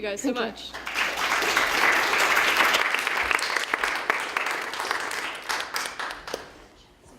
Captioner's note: applause